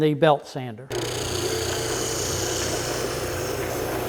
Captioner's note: machine drills